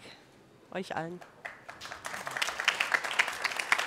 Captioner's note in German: applaus